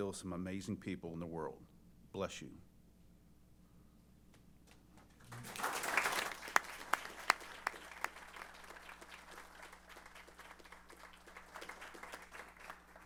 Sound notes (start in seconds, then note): 5.1 applause